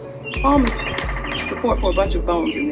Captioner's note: slapping dorsal side with palm